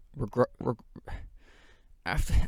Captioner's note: sigh